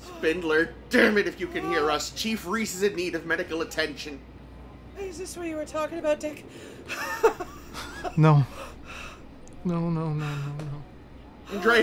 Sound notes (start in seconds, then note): 6.9 pained laughter